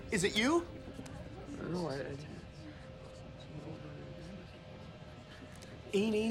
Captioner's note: man mumbles